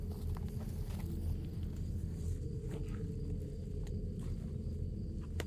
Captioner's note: shoes squeaking and clothes rustling